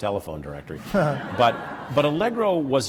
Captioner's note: laughter